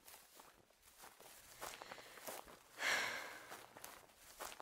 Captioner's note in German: Tiefer Seufzer